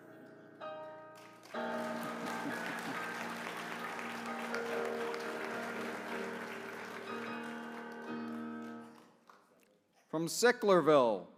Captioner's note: applause